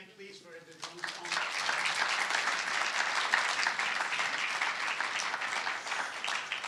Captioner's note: applause